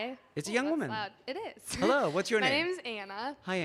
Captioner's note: laughs